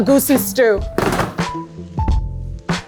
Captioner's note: plastic container rattling; gentle upbeat music